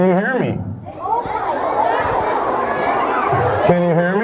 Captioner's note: kids shouting